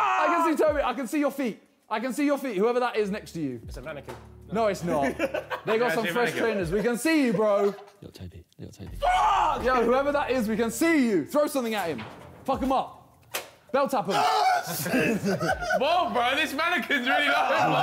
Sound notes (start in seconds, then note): 0.0 Tobi yells; 14.0 men scream